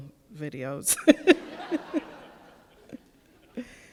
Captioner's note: laughs